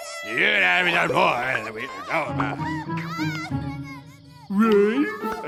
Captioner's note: soldier speaks gibberish; man speaks gibberish